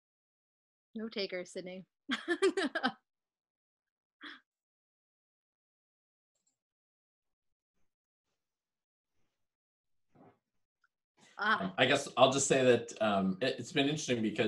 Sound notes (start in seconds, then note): 2.2 laughing